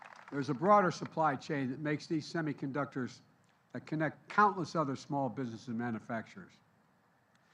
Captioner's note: applause